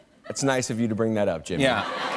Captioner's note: laughter